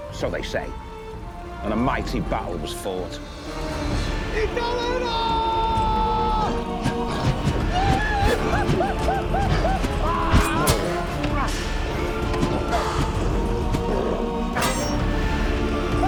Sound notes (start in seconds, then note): 4.5 Panther shouts in Native language; 6.6 intense music; 7.7 Panther yells; 7.7 axe whooshes; 10.4 axes clash; 14.2 blades ring